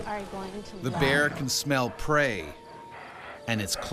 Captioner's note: voiceover